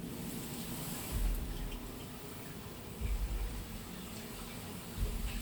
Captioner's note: heartbeat pulsing